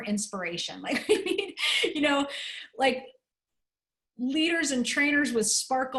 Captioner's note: laughter